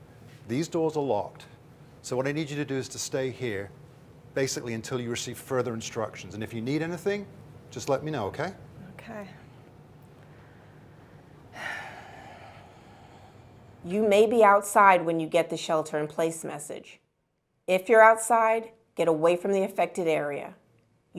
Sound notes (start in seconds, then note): 11.5 sighs